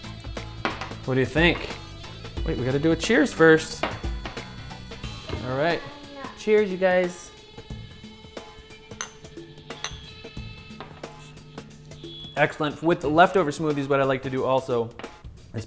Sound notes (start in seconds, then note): 9.7 glasses clink